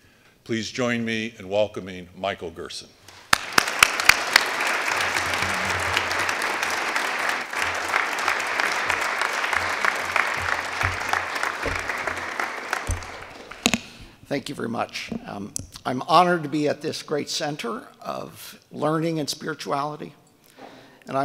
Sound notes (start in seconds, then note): 3.1 audience applauding